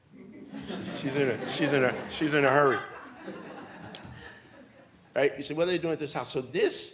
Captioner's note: audience laughs